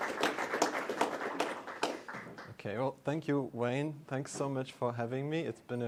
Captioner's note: applause